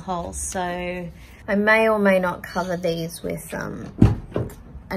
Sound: car door clunks as it shuts

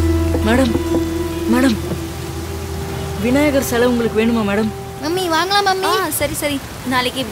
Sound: door locking sound

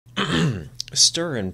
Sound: clears throat

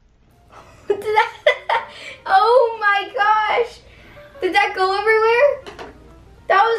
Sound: laughter

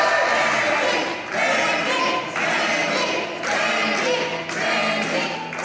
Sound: crowd

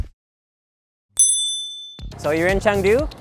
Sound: bell dinging

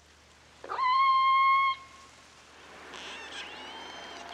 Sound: orca Sounds

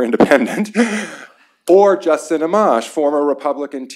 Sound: laughter

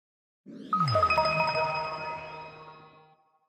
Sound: logo chiming

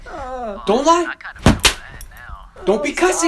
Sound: whip sound

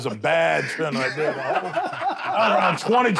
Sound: laughter

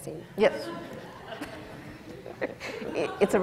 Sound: laughter

